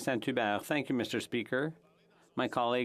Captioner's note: speaking French